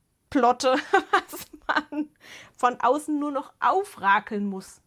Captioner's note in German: Gelächter